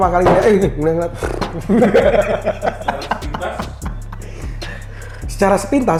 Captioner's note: laugh